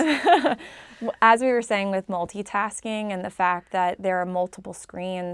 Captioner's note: laugh